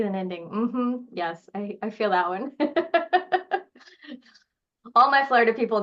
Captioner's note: laughing